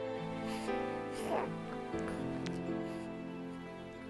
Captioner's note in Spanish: ronquidos de bebé